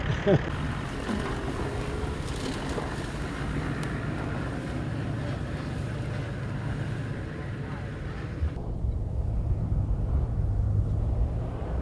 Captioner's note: vehicle sounds